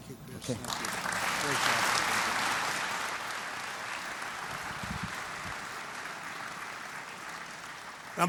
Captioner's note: applause